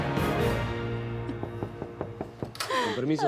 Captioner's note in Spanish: Toques en la puerta